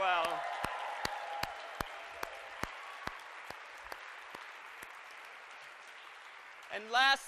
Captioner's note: applause